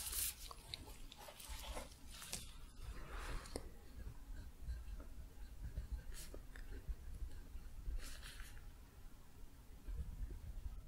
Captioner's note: shuffling, writing